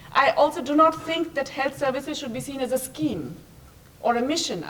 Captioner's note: none